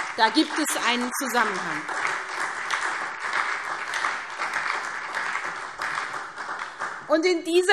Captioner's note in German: Beifall SPD